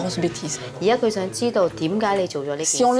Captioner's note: foreign language